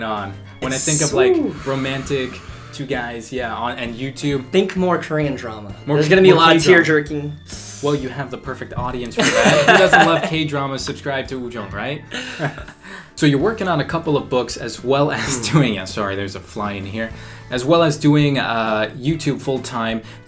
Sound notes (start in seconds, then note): 9.2 laughs